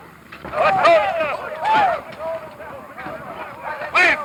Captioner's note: men yelling